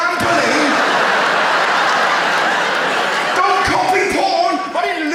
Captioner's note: audience laughs